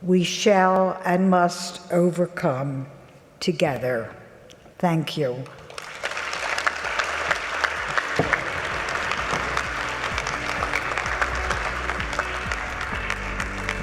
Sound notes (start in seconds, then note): 5.5 audience clapping; 10.4 light upbeat music